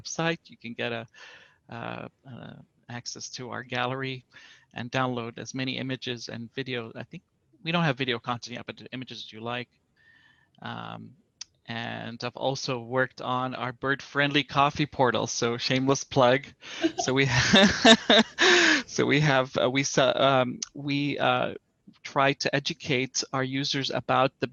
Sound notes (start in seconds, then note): 16.7 laughter